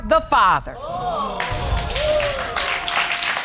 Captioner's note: audience exclaiming and applauding